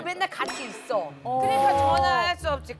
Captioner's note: pfft